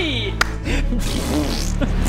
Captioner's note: pffft